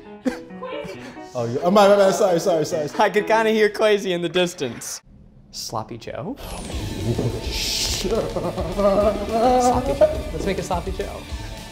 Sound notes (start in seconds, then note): 0.2 giggling; 6.5 quietly exclaiming